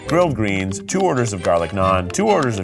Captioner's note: graphics clicking